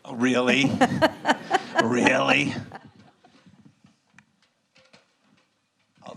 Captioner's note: laughs